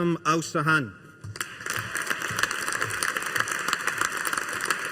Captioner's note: audience applauding